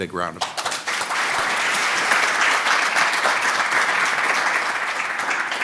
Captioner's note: applause